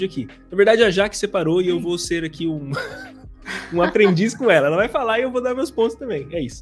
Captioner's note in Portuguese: risos